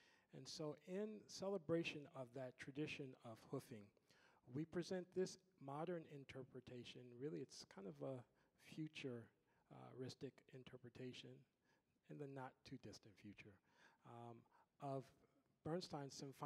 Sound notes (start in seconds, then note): none